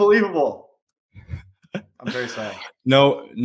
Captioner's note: chuckling